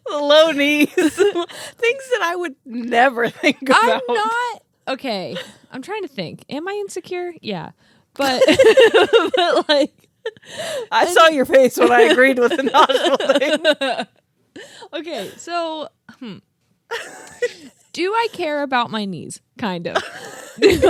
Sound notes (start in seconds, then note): 8.3 laugh; 13.7 laugh